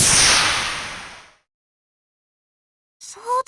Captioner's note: silence